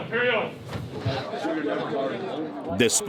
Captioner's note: group chattering